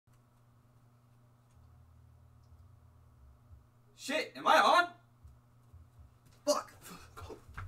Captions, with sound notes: [awkward silence] Shit, am I on? [silence] Fuck!